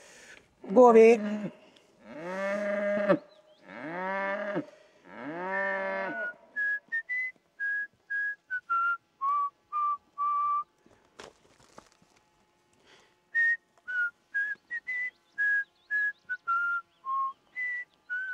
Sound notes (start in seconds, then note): 6.5 whistles